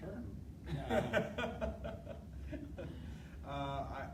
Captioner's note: laughter